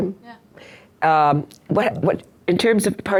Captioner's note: voiceover